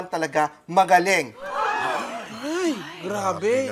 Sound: gasps

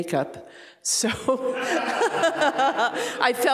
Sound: laughing

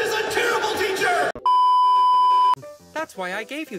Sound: beep

